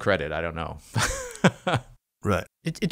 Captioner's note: laughs